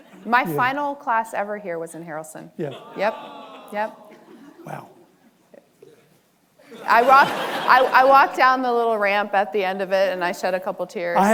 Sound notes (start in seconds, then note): 2.6 audience groans; 6.6 audience laughing